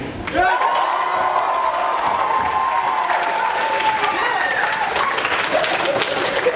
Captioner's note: cheering